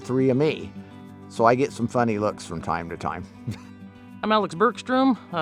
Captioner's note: chuckles